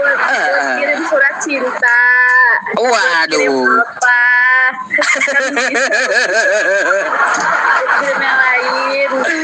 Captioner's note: laughs